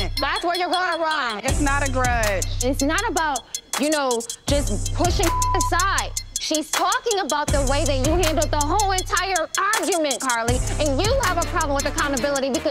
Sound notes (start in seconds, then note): 5.2 beep